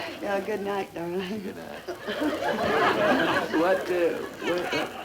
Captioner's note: audience laughter